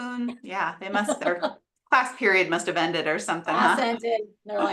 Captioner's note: laughs